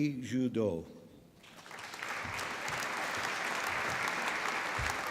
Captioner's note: applause